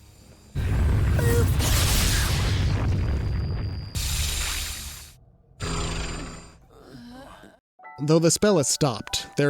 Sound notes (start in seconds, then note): 3.9 hissing; 6.6 all groaning